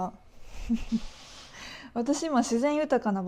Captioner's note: laughing at the memory